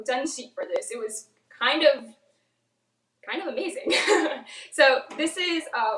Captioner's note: laughs